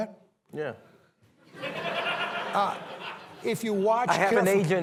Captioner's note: laughter